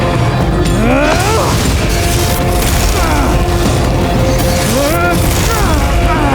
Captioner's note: combat grunts